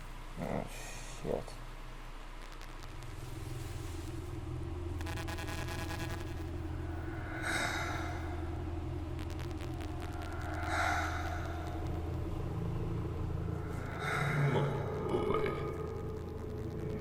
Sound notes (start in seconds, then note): 2.2 static returns; 6.4 Wanderer breathing